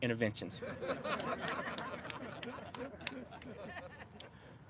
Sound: laughter

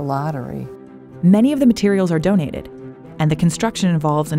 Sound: voiceover

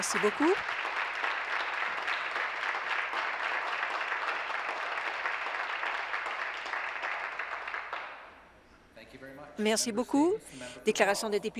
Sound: some Applause

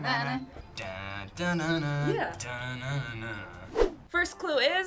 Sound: vocalizes

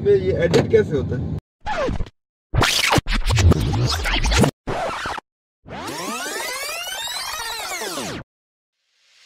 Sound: fast forward summary sound

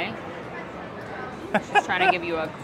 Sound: laughs

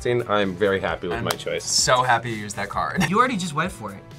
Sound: laughs

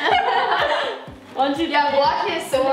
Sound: laughing

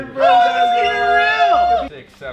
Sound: cheering

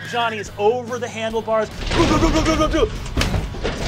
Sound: makes crashing noises

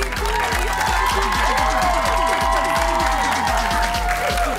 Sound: cheers and applause

